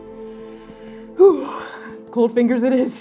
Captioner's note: inhaling sharply